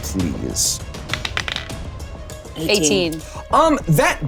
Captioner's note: die rolling